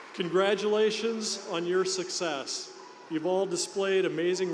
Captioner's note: cheers and applause